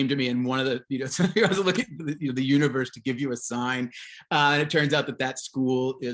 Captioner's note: chuckles